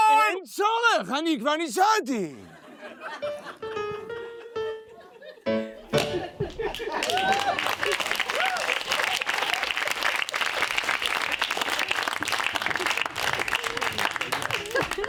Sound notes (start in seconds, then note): 2.6 audience laughs; 5.9 audience applauding